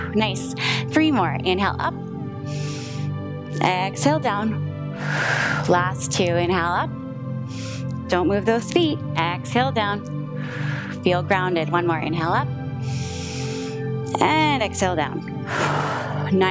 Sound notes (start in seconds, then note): 2.4 inhales; 2.4 exhales; 4.9 inhales; 10.4 exhales; 12.8 inhales; 15.6 exhales